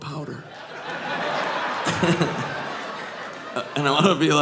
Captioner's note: all laughing